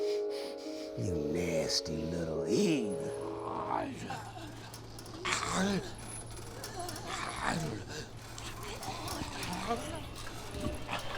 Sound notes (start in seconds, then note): 3.6 zombies grumbling